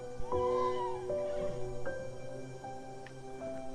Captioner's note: horse neighing